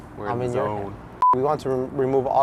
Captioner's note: scene beeps